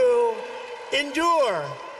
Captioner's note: applause